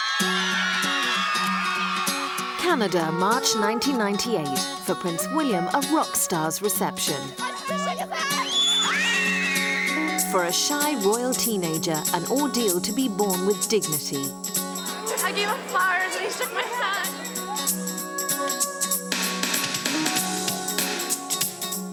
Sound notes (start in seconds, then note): 0.0 cheering; 0.0 screaming; 0.2 lively music; 8.1 screaming; 18.2 lively music